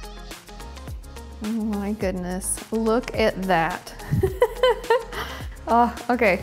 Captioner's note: laughs